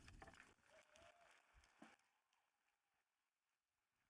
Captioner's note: audience applauding